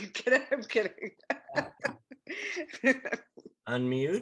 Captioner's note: laughs